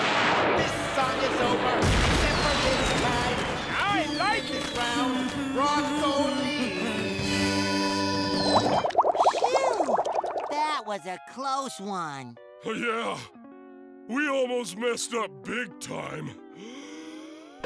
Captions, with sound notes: [explosion] I like it! Phew, that was a close one! Yeah! We almost messed up big time!